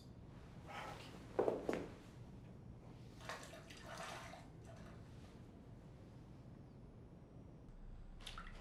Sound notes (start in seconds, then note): 3.2 bath water sloshes